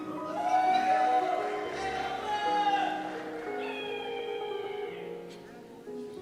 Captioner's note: cheers